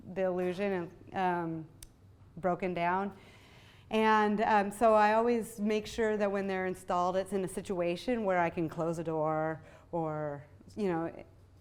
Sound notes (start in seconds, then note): none